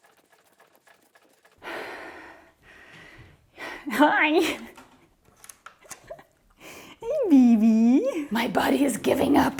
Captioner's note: labored breathing